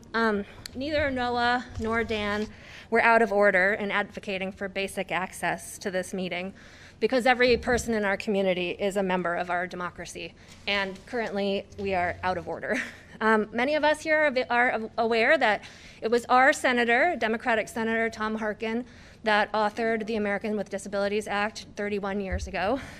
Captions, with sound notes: Um, neither are Noah nor Dan were out of order in advocating for basic access to this meeting, because every person in our community is a member of our democracy, and currently we are out of order. [LAUGHTER] Um, many of us here are aware that it was our senator, Democratic Senator Tom Harkin that authored the American with Disabilities Act 31 years ago.